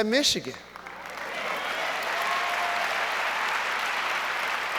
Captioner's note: audience applauds